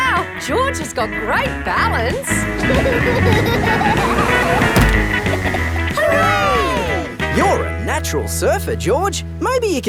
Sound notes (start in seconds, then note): 2.6 laughing